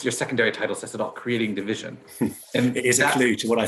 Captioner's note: laughs